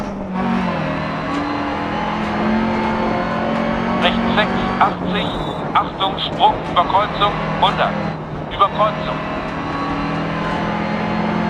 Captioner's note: engine sounds and co-pilot's instructions